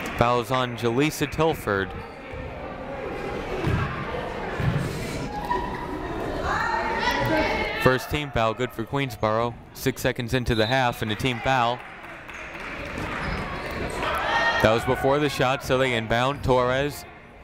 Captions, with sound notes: Foul was on Jaleesa Tilford. (people talking in the crowd) (people shouting in the crowd) First team foul. Good for Queensborough. Six seconds into the half and a team foul. (people shouting in the crowd) That was before the shot, so they inbound Torres.